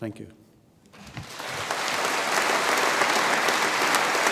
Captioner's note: audience applauds